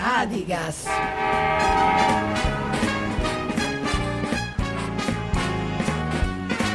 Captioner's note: train horn blaring; upbeat jazz music